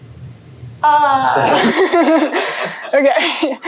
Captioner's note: laughter